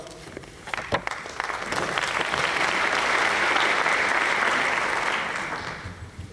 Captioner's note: applause